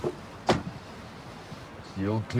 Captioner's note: door slams